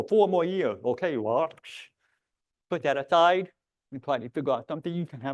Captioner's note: scoffs